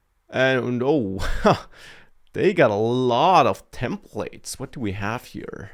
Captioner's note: laughs